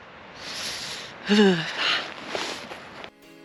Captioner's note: shivering noises